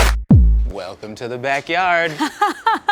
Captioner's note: upbeat hip hop music; Emmy laughs